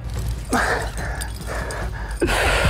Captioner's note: breathes heavily